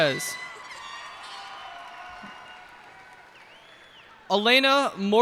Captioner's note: cheers and applause